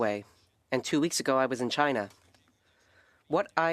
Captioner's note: speaking French